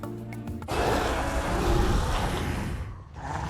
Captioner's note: zombie screaming